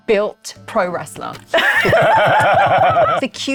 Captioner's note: laughing